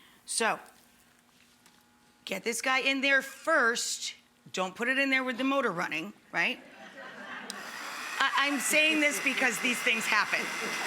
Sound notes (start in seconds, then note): 6.6 audience laughs